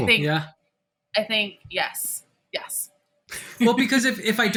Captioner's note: chuckling